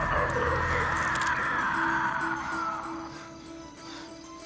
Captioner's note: panting